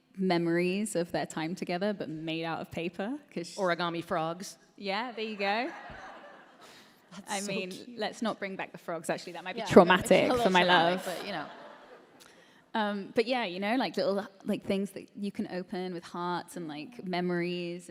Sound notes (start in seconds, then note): 10.2 laughter